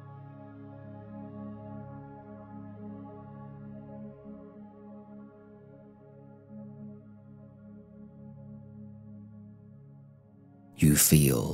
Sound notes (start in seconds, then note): 1.6 15s silence